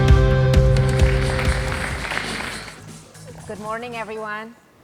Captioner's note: clapping